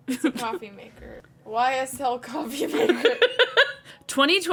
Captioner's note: laughing